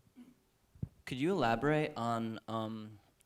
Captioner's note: voiceover